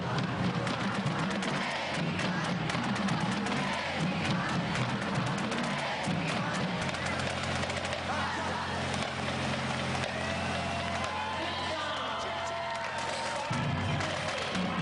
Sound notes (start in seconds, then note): 11.4 chanting; 14.2 cheers